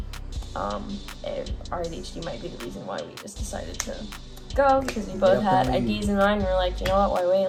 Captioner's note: snaps